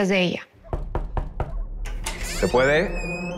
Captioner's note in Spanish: Toques en la puerta